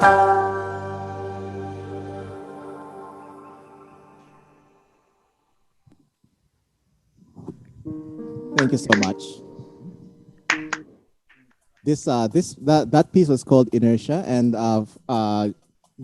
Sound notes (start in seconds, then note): 10.5 clapping off-screen